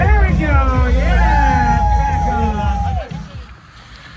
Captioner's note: crowd cheers